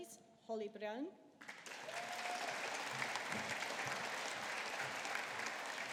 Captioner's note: audience applauding